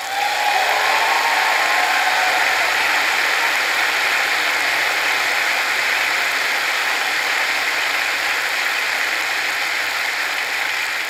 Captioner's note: applause